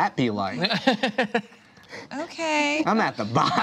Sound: laughs

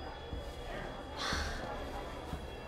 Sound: sighs

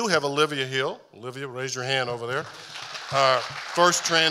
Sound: audience applauding

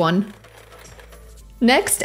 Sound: mixer whirring

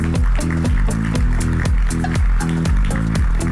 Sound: applause; upbeat music

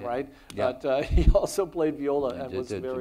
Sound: chuckles

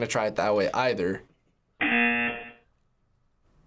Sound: buzzer

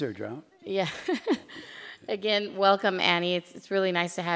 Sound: laughs

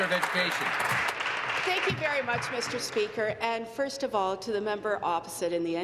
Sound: applause

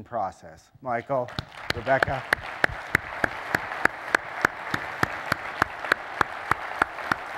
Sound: applause

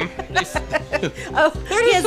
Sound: laughing

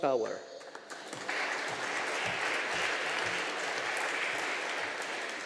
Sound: audience applauding

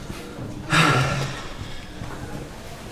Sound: relieved sigh

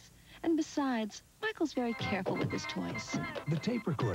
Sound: as tape recorder bounces down stairs

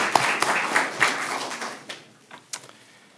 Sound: applause

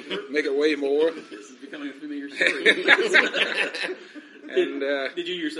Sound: all laugh

